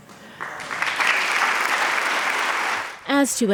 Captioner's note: attendees clapping